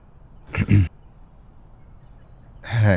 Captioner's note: clear throats